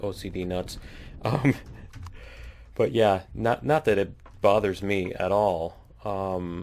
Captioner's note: laughs